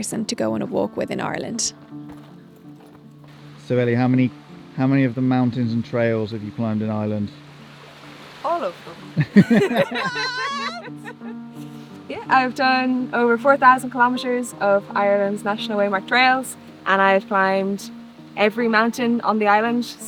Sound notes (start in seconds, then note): 9.2 laughing